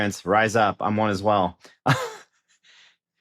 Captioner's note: chuckles